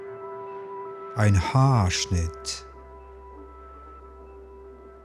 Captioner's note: german